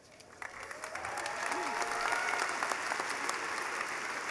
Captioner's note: clapping